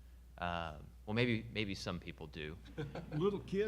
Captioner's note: audience member laughing